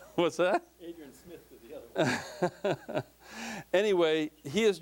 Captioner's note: laughing